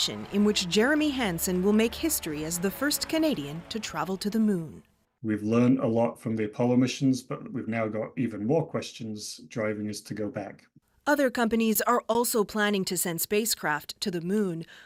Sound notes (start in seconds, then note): 5.2 cheers and Applause